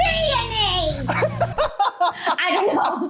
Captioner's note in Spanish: risas